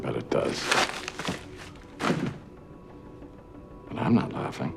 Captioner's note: envelope clatters